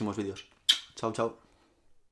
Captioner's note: kisses